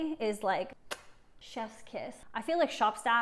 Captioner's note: kiss